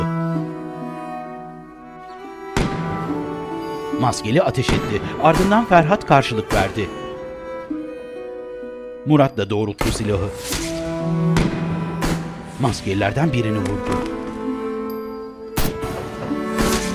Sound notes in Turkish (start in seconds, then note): 2.6 Silah sesleri; 9.8 Silah sesleri